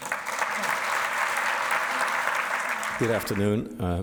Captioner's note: audience applauds